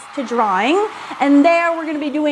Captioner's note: applause